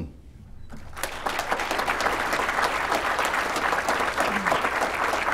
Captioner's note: applause